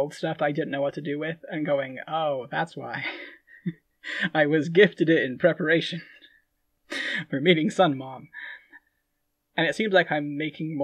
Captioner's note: laughing